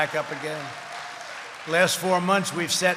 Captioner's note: applause